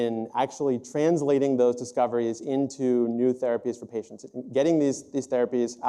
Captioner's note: none